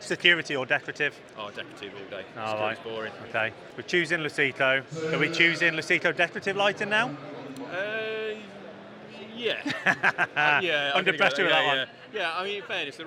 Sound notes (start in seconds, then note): 9.5 laughs